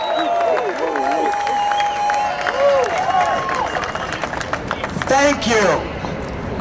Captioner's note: cheers and Applause